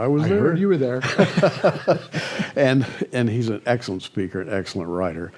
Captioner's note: laughter